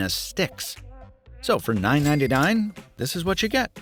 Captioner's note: cash register chime